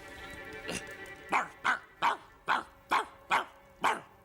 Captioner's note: barking